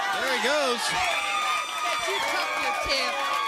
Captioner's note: crowd cheering